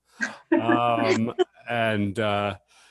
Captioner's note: laughs